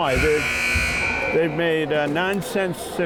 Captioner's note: timer buzzes